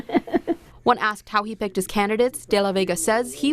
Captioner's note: laughing